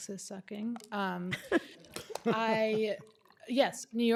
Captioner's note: laughter